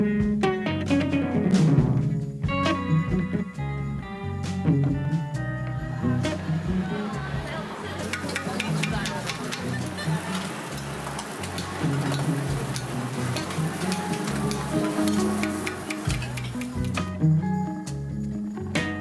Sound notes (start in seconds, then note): 7.5 people talking in background; 9.5 utensil clanging; 11.2 griddle sizzling